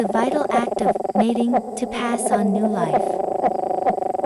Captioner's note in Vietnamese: mating